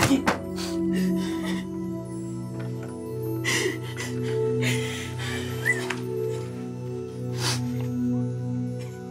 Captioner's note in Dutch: crying